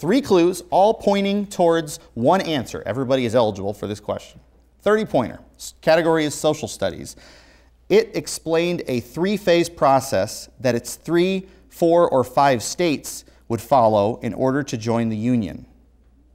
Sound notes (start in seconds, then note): none